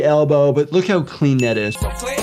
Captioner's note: star chiming; R&B music